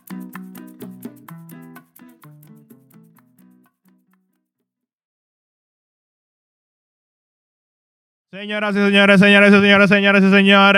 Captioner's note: speaking Spanish